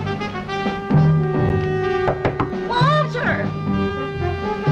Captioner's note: knock On Door